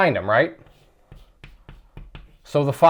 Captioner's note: chalk writing